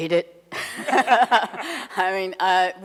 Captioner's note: laughs